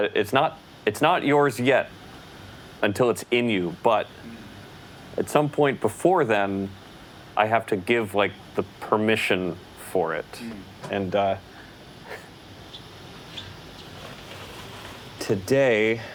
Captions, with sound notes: - It's not yours yet it until it's in you. But at some point before then, I have to give the permission for it. And [laughs] today,